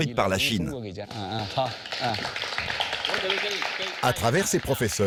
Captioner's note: all applauding